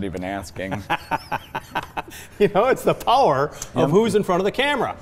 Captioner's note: laughs